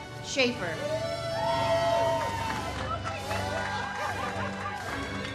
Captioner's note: audience cheers